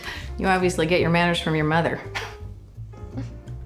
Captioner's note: chuckles